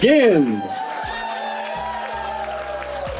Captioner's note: audience cheering